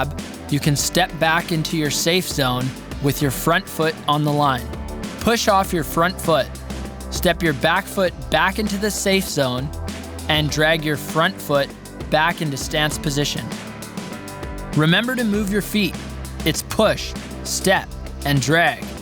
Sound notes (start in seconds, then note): none